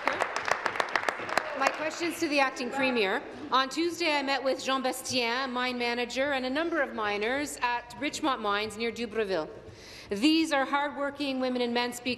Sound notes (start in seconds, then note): 2.5 applause